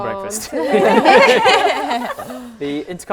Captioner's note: laughing